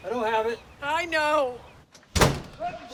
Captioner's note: loud sneezing